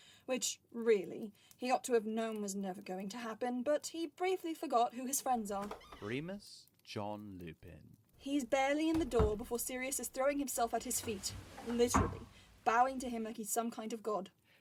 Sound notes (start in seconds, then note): 5.5 door opens; 10.6 door closes